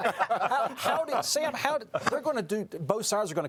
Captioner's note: laughing